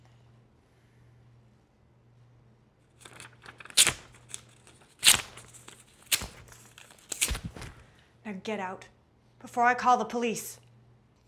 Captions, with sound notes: (paper ripping) - Now get out before I call the police.